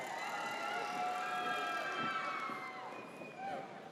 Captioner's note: audience cheers